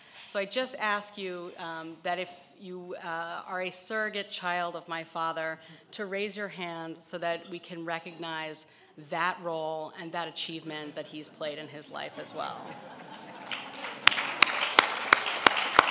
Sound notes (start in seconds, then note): 13.0 applause